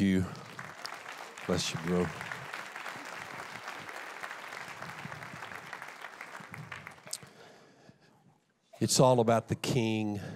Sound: applause

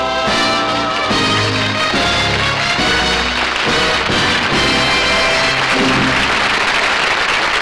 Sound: applause; applause

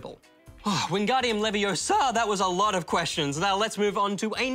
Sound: sighs

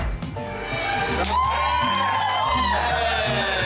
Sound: cheering and whooping

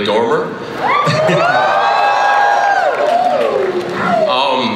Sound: cheering, applause

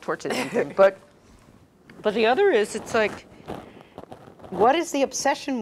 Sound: laugh

